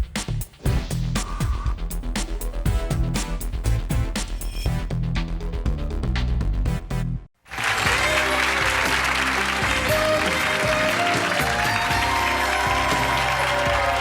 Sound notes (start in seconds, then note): 7.4 clapping; 7.5 lively music